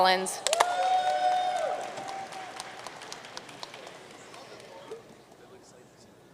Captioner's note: audience cheering and applauding